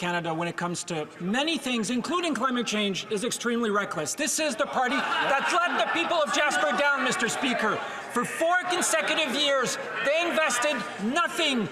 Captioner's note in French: voix de l'interprète